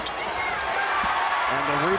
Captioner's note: crowd applauds